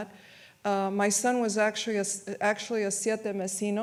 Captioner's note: speaks in foreign language